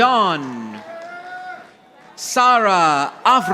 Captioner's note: audience applauding